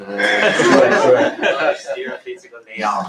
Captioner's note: laughter